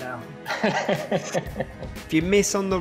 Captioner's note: laughs